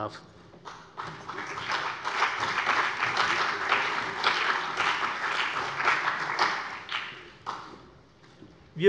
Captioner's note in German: Beifall CDU und BÜNDNIS 90/DIE GRÜNEN